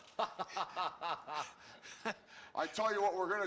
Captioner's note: laughing